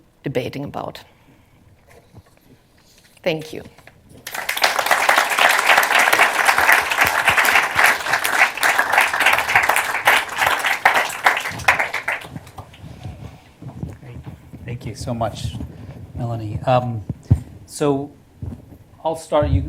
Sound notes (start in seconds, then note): 4.2 applause